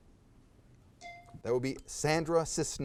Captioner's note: timer dings